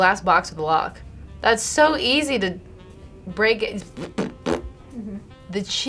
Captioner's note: makes fart noises